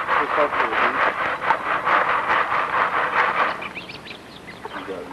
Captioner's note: shaking and sifting sounds; mumbling and bird song